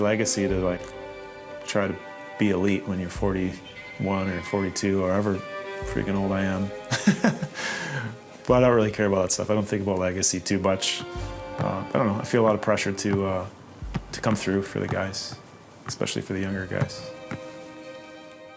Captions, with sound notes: to, like, try and be elite when you're 41." Or 42, or however frickin' old I am. (laughing) But I don't really care about that stuff. I don't think about legacy too much. I feel a lot of pressure to come through for the guys, especially for the younger guys.